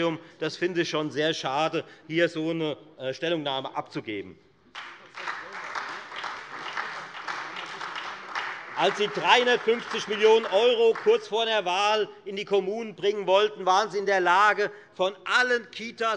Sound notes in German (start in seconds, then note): 4.7 Beifall Freie Demokraten und vereinzelt SPD